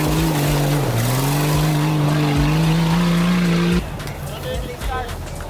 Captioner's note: engine revving